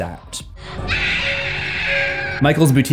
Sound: Jamie screaming

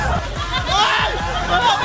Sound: screaming from coldness

